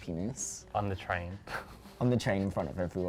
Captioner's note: laughs